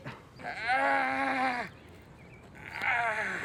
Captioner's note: groaning